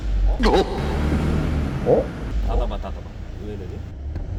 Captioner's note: bang